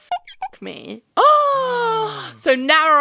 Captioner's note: beep; gasping